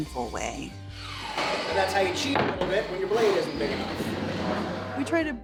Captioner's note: background Speech